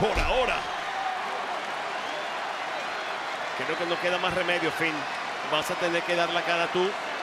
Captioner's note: applause